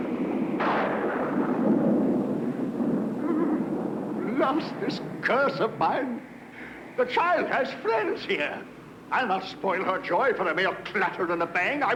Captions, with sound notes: - (shudders) Blast this curse of mine! The child has friends here! I'll not spoil her joy for a mere clatter and a bang.